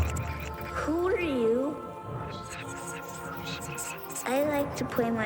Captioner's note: ghostly voices chattering